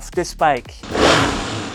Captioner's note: engine revs